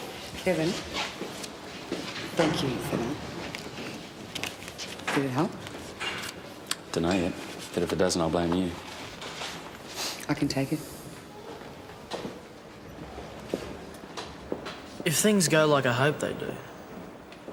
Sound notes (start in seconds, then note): none